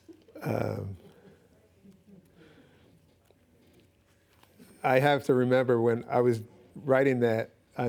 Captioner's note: laughing